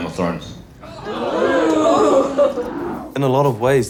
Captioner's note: crowd exclaims